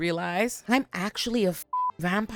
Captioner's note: beep